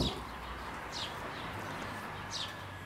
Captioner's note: birds chirping